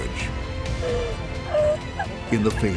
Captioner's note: crying